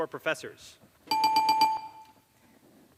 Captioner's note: dings